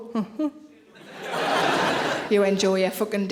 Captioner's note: audience laughing